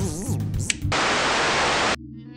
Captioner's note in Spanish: Estática